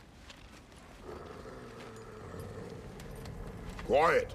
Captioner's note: growl